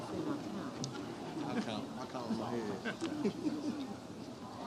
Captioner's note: presenters continue murmurs